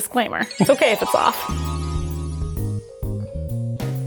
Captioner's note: graphic chiming; gentle jazz music